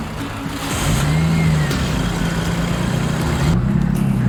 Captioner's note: engine rumbling